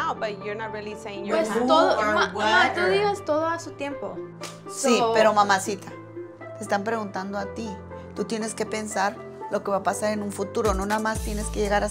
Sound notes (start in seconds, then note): 1.5 speaks in foreign language; 4.0 Eileen's grandma speaks in foreign language